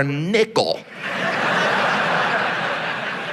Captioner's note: audience laughs